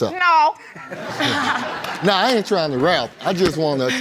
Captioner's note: audience laughs